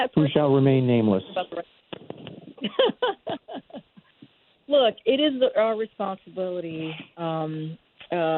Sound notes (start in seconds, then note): 2.0 laughs